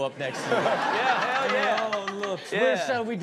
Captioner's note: audience laughs